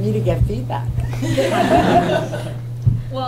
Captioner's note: laughter